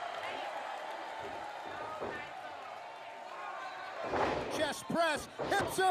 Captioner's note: crowd noise